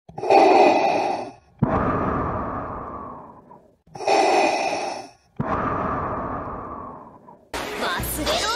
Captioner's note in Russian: Дыхание Дарта Вейдера